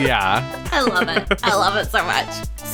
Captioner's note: laughs